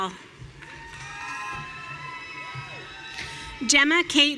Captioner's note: audience cheering